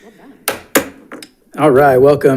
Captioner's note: gavel tapping